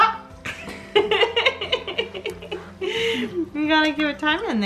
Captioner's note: laughs